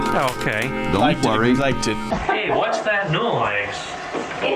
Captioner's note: toilet flushes